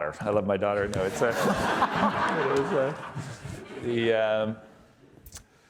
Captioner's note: audience laughing